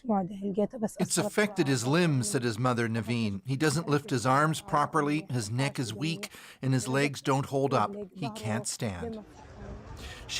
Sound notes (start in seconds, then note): 5.4 speaking alternate language